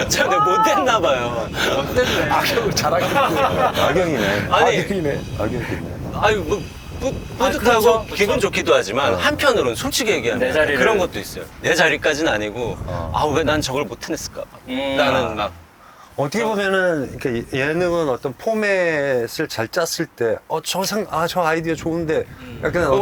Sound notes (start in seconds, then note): 4.8 The wind gets stronger as if criticizing Yung Suk